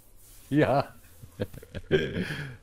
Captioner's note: laughs